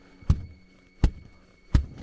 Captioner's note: thud; thud